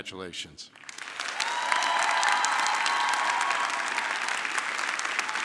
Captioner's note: audience clapping